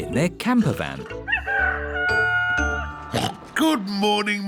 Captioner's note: daddy pig oinks; rooster crowing